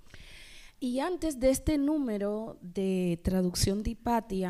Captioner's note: speaking spanish